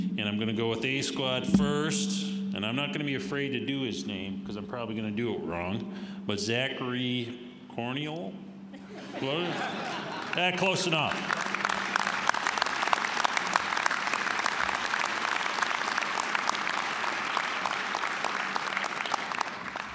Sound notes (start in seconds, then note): 8.7 audience laughing; 11.9 applause